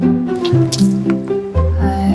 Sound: sound of spitting water

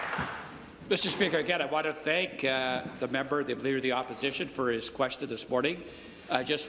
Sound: applause

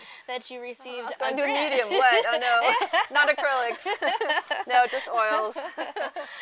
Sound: laughing

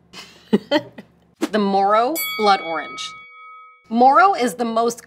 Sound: bell dings

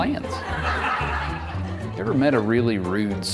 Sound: audience laughing

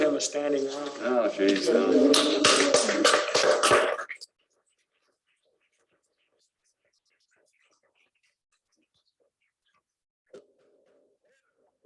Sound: applause

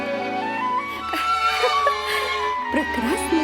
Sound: laughs

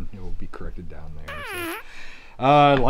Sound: fart noise

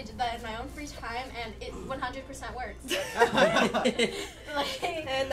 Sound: laughter

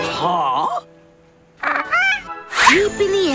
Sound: squawking

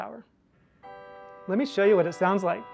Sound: carillon chiming

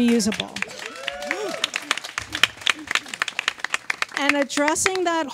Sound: audience claps and cheers

